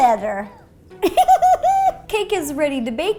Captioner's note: laughing